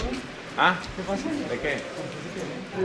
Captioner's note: speaking Spanish